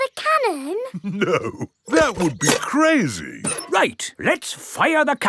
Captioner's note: chuckling